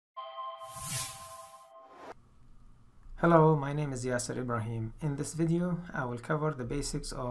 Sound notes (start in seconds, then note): 0.2 tone sounding; 0.7 whoosh